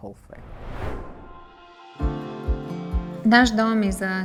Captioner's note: screen swooshing